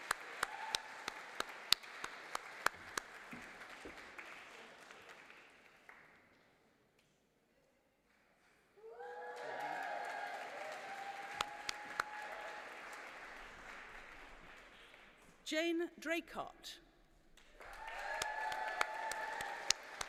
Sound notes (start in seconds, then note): 4.7 applause; 19.8 applause